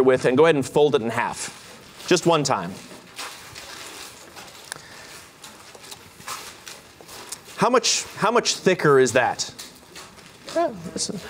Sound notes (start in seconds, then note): 3.0 paper rustling